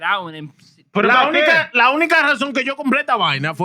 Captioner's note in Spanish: Hablando en idioma extranjero